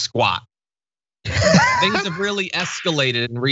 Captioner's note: laugh